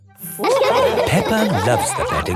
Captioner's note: all laughing